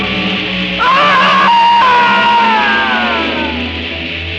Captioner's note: screaming